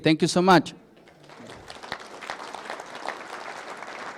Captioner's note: applause